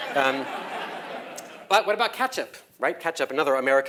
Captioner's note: laugh